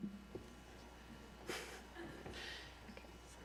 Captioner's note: laughter